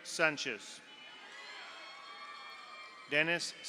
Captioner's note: audience cheers; audience applauds